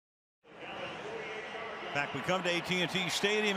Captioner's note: pa announcement